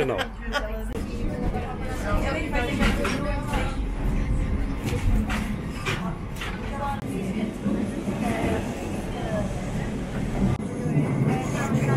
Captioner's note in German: Fahrgeräusche